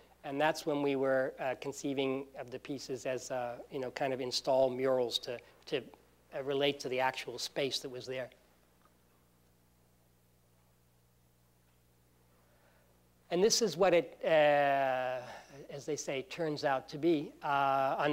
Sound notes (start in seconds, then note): none